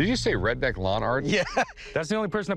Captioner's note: laughter